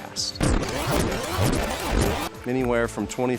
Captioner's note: glitchy pitchshifted audio